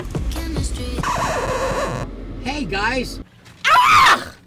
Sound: record scratch

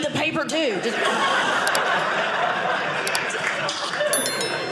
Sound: audience laughing

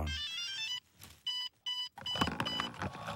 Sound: beeping

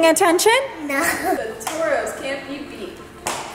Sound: giggling

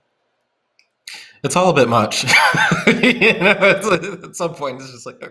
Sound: laughing

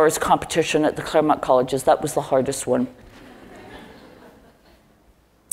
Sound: laugh

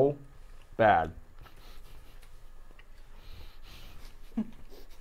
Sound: laughing

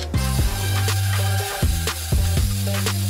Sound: spraying

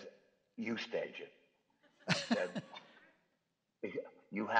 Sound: chuckles

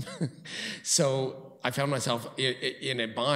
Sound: chuckles

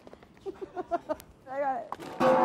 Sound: laughing

